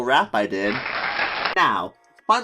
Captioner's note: crowd cheering, applause SFX